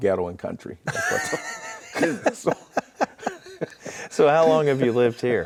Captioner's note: both laughing